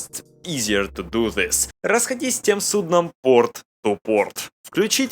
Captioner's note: in Russian